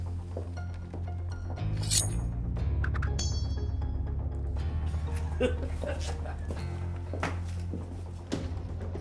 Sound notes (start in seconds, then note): 5.2 man chuckling